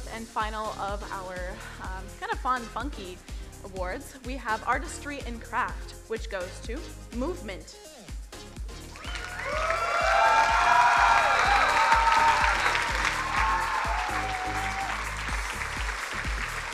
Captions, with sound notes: and final of our kind of fun funky awards, we have artistry and craft, which goes to "Movement." (crowd cheering and applauding)